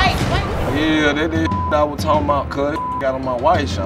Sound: beep

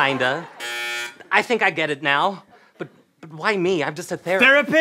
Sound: buzzing

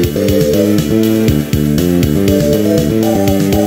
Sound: vrooooom

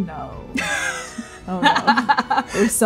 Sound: laughing

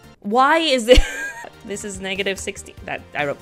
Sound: laughs

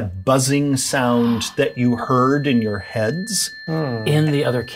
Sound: ringing tone

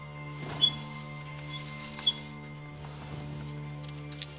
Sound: squeaking

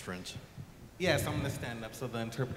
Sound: voiceover

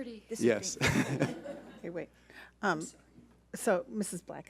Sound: laughs

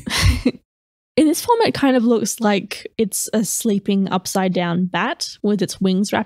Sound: chuckle

